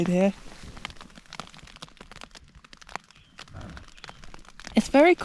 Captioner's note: light rain